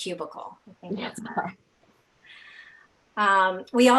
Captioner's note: laughing